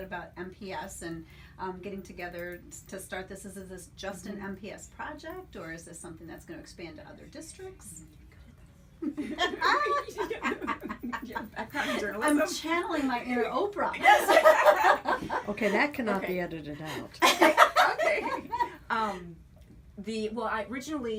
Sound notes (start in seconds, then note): 9.0 laughter